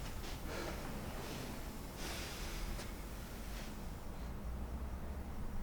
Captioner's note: heavy breathing